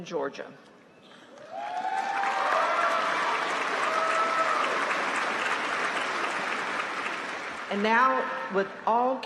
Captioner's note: applause